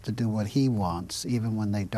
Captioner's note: speaking Italian